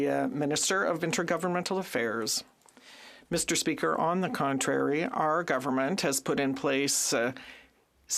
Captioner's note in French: voix de l'interprète